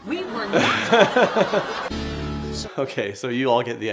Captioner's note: audience laughing